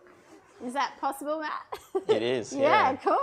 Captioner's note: chuckles